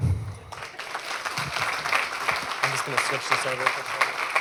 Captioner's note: applause